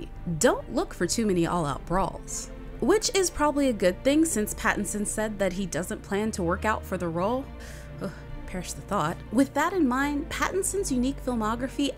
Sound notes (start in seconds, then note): 7.6 sighs